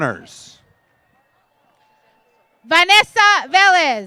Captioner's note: applause